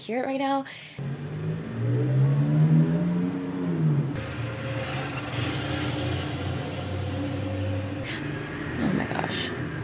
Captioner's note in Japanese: 車の音